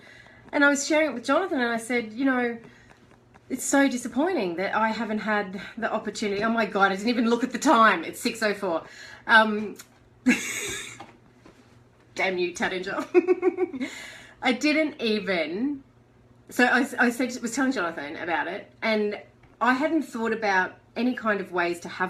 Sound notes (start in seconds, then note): 10.3 laughter; 13.0 chuckles